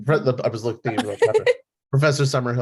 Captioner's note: laughs